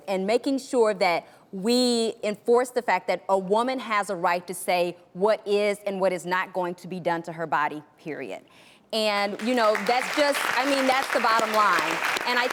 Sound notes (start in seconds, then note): 9.4 audience applause